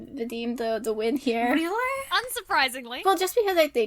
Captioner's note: sarcastically